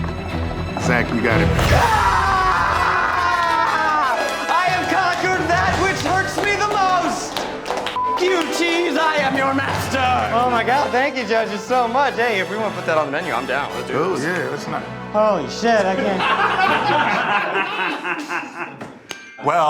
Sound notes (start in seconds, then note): 1.6 cheers; 7.9 beep; 15.8 laughs